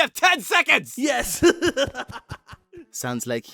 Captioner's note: laughs